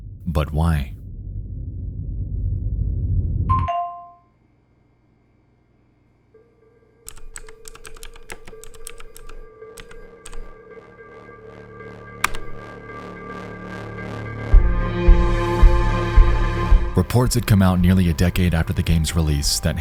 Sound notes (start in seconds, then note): 1.0 tense ominous music; 3.6 computer pings; 7.0 keyboard clacking; 14.6 gentle mysterious music